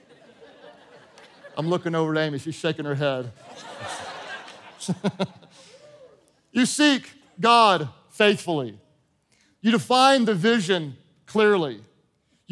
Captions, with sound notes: (congregation laughing) I'm looking over to Amy, she's shaking her head. (congregation chuckling) You seek God faithfully. You define the vision clearly.